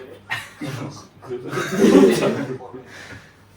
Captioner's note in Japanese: 笑い